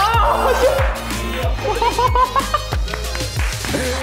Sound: hehehehehe

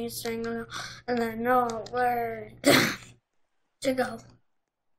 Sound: cough

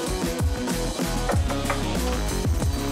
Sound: knock Knock

